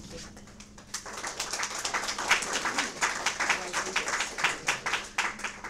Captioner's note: audience applause